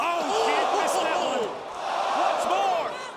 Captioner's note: crowd chatter